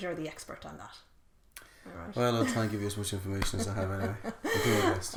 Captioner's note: laughing